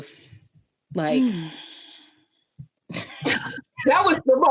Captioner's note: massive sigh